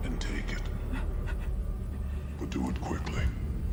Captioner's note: person crying